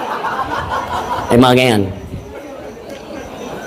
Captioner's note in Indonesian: tertawa